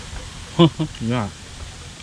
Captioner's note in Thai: หัวเราะ